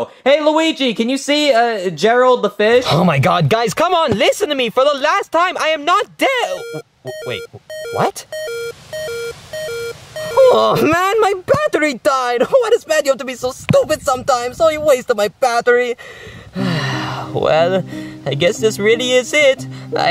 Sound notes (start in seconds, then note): 7.0 phone beeping; 8.6 phone beeping continues; 16.0 sighs